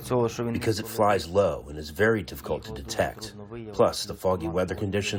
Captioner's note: through translator